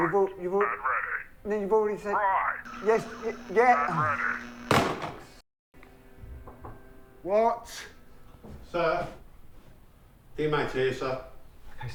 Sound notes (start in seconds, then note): 6.4 door knocking